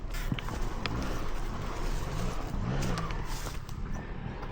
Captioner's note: engine roaring